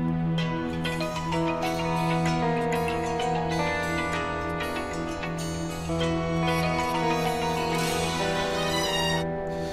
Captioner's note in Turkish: Telefon zili sesi